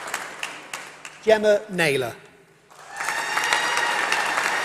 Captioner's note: applause